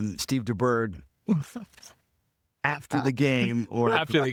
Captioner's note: laughing